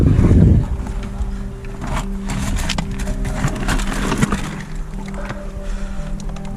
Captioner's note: metal scraping; hard breathing